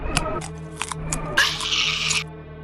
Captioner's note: Sora the cat screams